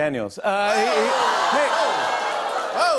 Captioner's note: audience ohs